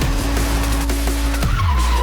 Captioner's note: tires screech